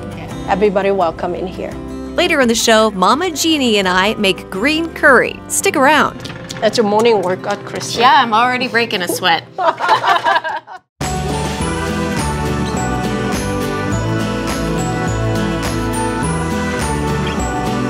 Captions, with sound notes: - Yeah. - Everybody welcome in here. - Later on the show Mama Jeannie and I make green curry. Stick around. - That's your morning workout Kristi. - Yeah, I'm already breaking a sweat. [laughs]